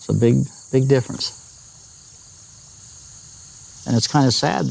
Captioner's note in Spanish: Pájaros trinando